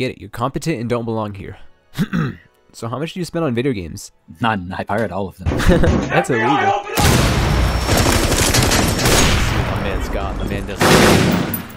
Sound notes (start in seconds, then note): 1.9 clear Throat